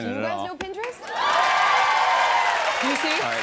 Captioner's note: cheers and applause